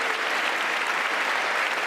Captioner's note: applause